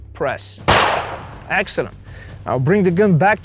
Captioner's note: gunfire pops